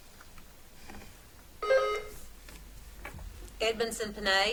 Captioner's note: buzzer beeps